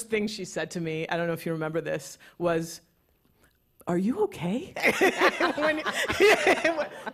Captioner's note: laughter